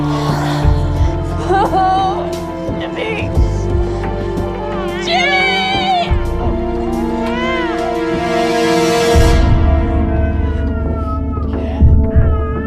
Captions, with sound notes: [crying] Jimmy.. Jimmy! [baby crying] [baby crying]